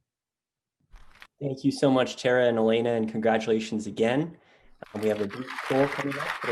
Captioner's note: clapping